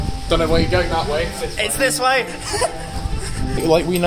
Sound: giggles

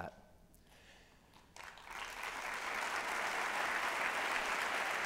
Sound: applause

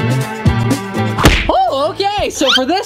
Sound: smacking sound

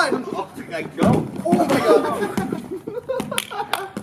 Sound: laughter

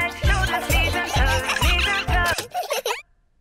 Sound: giggling; music stops

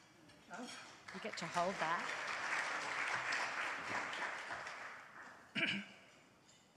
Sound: audience applauds

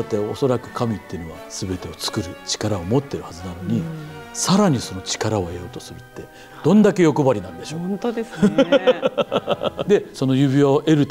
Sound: laughter

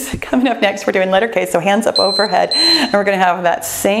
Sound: timer beeps

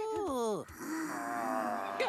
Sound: zombies groaning

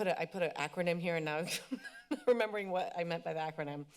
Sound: chuckles

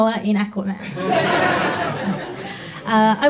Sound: audience laughs

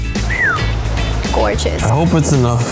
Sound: whistles

